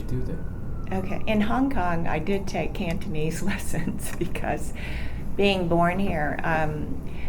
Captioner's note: laughs